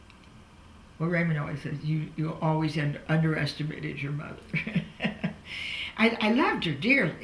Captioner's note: laughs